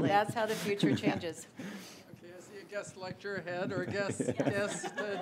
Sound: laughs

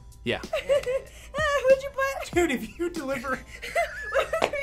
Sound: laughs

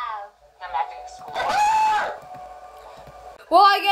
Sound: screams

